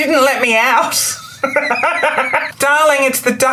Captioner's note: laughs